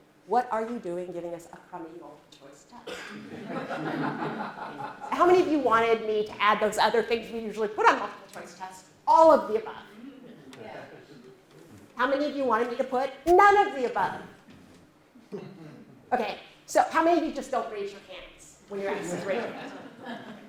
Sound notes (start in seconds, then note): 3.2 laughter; 10.0 chuckles